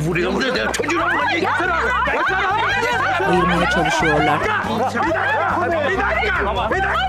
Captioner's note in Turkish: Bağırma sesleri